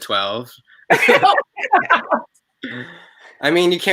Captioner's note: laughs